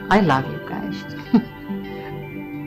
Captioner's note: laugh